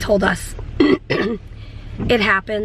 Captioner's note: clearing throat